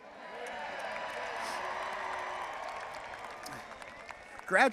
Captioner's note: attendees cheering